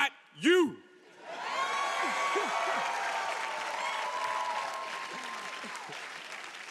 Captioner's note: audience cheering and applauding